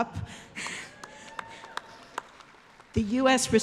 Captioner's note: applause